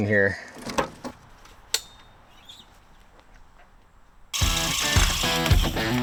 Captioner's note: metals clanking; drilling; upbeat music